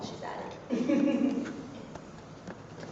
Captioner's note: laughs